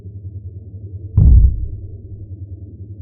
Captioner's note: muffled door slam